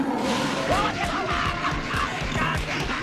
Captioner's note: screaming